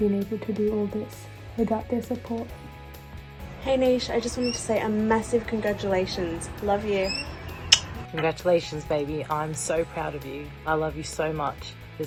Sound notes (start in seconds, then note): 7.5 kiss